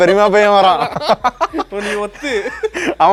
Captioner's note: laughing